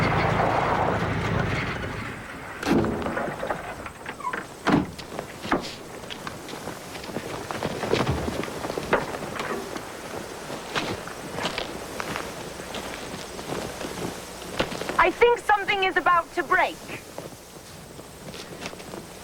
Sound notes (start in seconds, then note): 0.0 failing of engine; 3.2 yanking of hand-brake